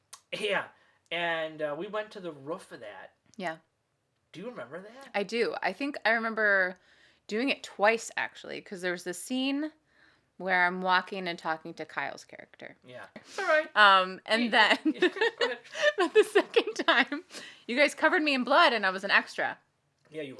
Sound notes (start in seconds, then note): 14.8 laughs